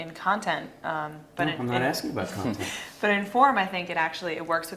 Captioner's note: laugh